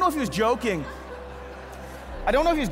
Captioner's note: congregation laughing